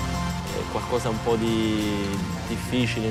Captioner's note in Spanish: hablando italiano